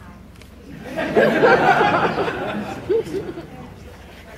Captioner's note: laughter